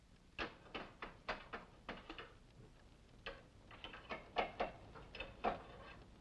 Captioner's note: poker clattering